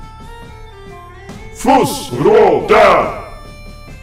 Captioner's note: dragon Shout